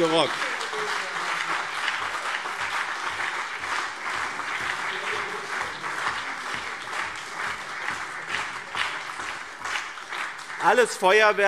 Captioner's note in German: Beifall BÜNDNIS 90/DIE GRÜNEN und CDU